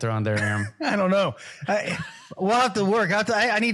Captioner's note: laugh